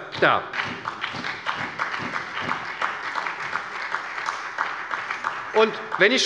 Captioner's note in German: Beifall bei der SPD